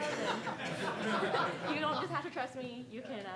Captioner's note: audience laughing